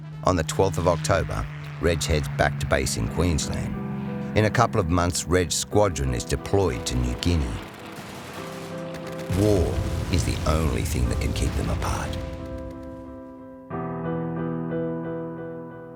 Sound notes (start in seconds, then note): 7.5 machine gun fire; 12.9 piano playing